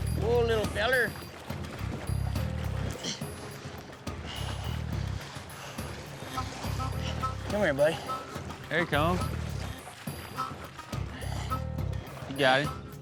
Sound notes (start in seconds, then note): 2.2 splashing